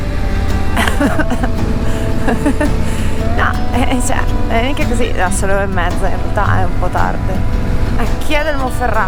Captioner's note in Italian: risate